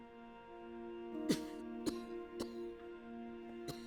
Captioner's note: coughing